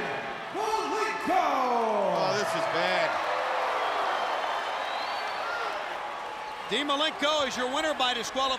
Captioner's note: crowd cheering